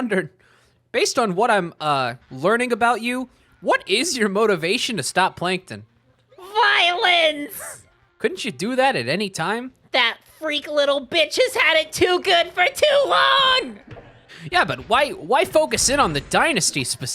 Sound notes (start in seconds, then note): 6.6 Spongebob voice; 10.2 Spongebob voice